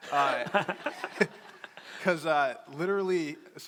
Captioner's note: crowd laughing